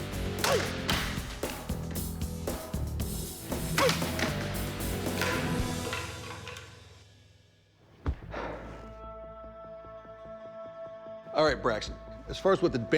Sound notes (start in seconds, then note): 8.0 sighs; 8.8 suspenseful music